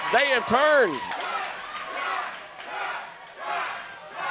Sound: crowd chanting

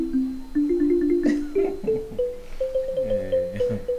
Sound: chuckles

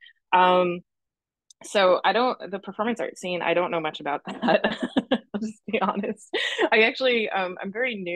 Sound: laughs

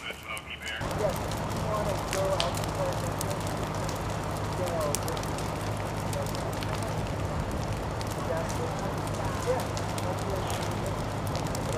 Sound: fire crackling and indistinct chatter

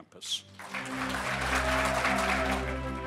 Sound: orchestral music; audience applauding

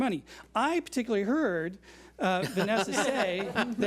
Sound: board laughs

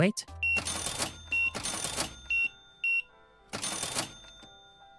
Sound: beeping

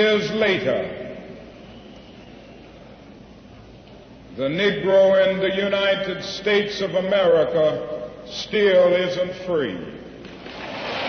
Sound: applause

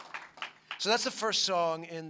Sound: applause

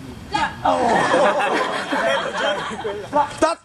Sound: laughing

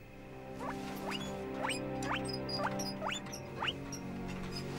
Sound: guinea pig squeaking

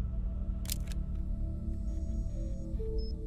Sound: shutter clicking

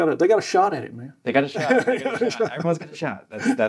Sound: laughing

